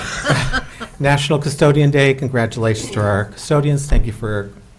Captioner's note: laughter